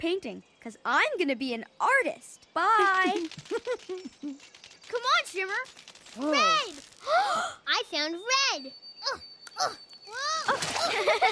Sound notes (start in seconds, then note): 2.8 giggles; 7.0 gasp